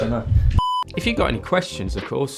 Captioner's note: beep